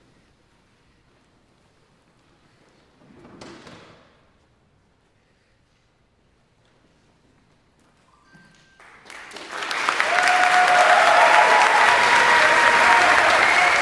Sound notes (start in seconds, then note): 8.8 audience applauding; 9.2 audience cheering